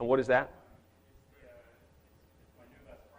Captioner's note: speaks off microphone